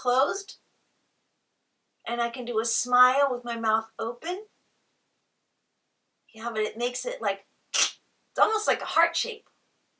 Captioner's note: makes ripping noice